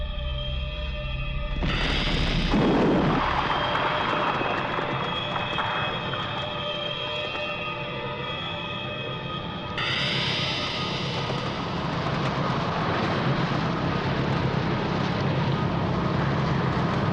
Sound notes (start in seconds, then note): 1.6 loud crashing; 3.4 electric whirring